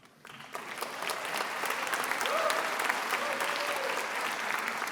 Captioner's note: attendees applauding